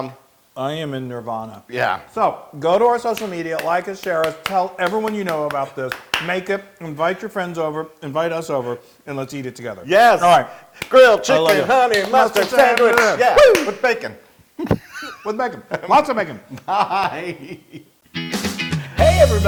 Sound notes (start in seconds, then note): 16.4 laugh